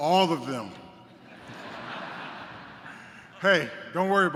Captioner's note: laughter